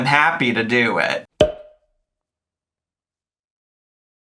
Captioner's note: air pops